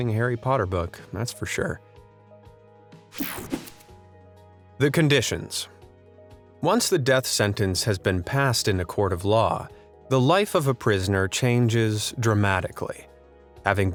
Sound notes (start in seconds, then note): 3.1 calm music; 3.2 image whooshing